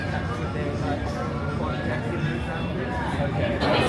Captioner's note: crowd murmuring